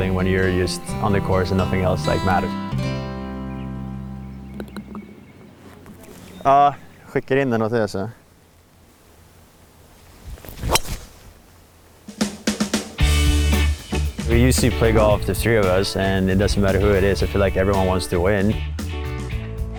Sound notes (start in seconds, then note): 5.1 birds chirping; 7.2 family speaking in foreign language; 10.4 golf clubs whacks; 12.9 upbeat cheerful music